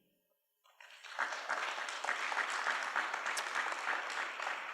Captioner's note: applause